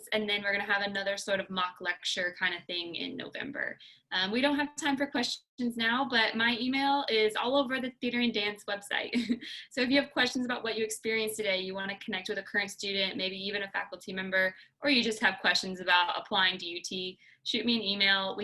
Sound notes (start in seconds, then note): 9.2 laughter